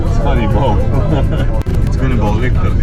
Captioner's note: laughter